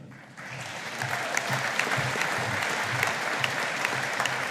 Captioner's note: audience applauding